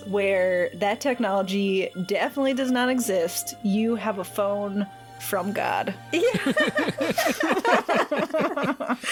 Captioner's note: all laughter